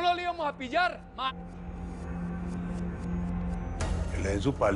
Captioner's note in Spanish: none